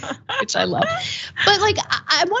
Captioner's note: laugh